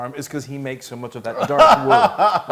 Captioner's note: laugh